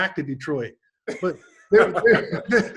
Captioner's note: David laughs